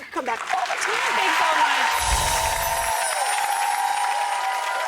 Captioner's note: applause; cheering